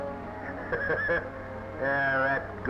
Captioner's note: laughing